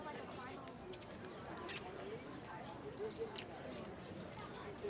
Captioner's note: none